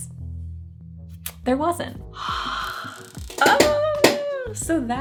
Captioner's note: sighing